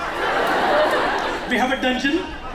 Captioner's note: laughter